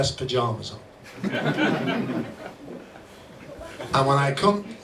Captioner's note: crowd laughs